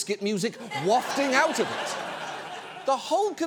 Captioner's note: audience laughs